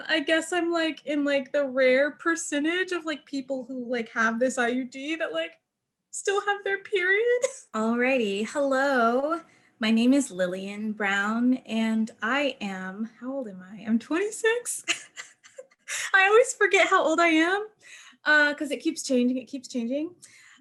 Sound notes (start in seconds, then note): 14.8 laughing